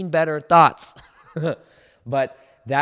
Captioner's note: giggles